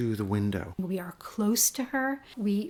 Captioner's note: voiceover